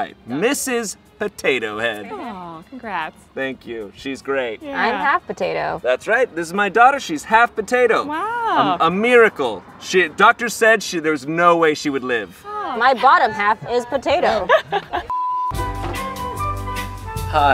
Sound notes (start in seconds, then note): 14.4 waitress laughs; 15.3 graphic beeps; 15.5 whimsical music